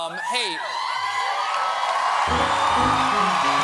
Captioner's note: cheers and applause